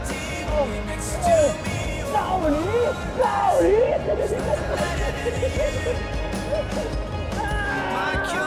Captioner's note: laugh